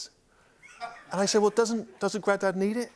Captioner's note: laughter